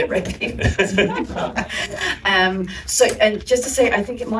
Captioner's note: laughter